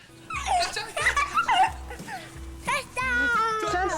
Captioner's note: laughing